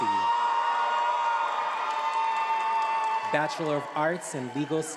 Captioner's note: attendees applauding and cheering